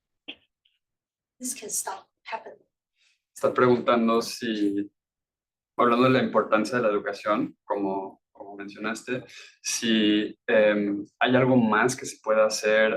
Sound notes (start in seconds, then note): 3.5 speaking Spanish